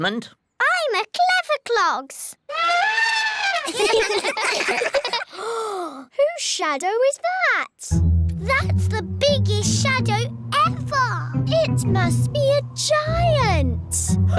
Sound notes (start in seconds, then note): 2.5 trumpets; 3.6 all giggle; 5.2 gasps; 14.1 laughs